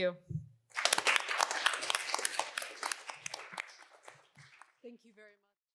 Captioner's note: applause